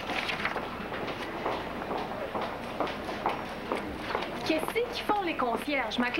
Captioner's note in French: Bruit de pas